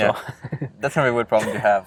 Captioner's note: laughing